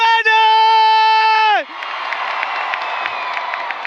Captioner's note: applause